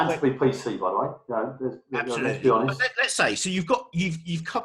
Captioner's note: murmurs